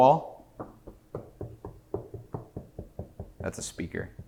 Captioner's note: knocking